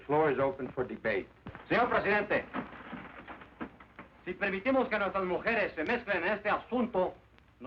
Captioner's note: speaking spanish